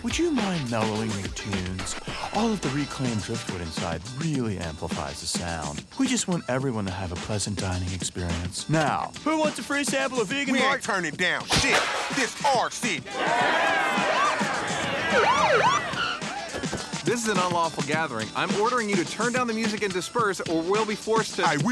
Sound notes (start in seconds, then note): 13.0 cheering; 14.8 siren chirps